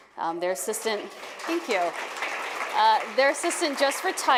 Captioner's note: applause